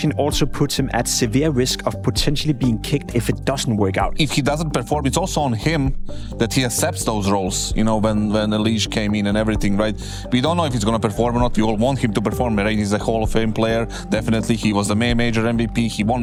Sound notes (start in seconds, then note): none